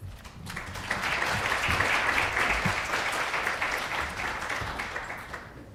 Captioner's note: applause